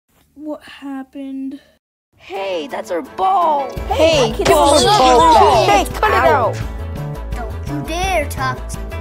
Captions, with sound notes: What happened Hey, that's our ball! [Kids yelling to give ball back] Don't you dare Tucz